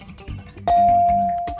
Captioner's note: bell dinging